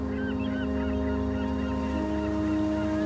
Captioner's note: birds squawking